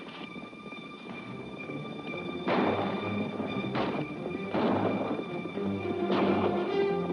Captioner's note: pezuñas golpean; armas golpean